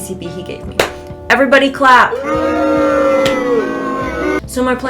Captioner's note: booing ensues